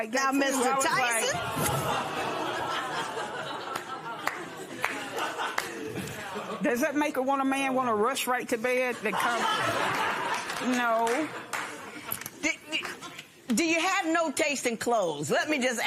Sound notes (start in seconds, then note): 1.3 laughter